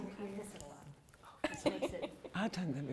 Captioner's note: laughs